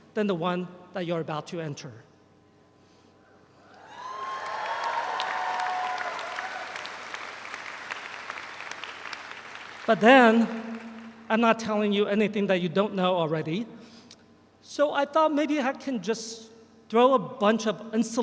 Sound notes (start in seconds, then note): 3.7 audience cheers; 3.8 audience applauds